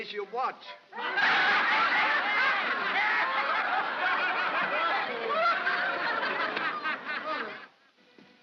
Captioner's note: crowd laughs